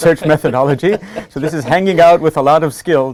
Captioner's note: laugh